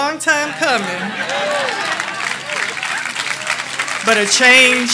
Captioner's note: audience laughing; audience applauding